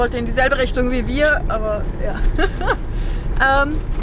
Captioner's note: laughter